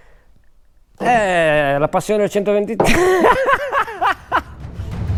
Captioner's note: laughs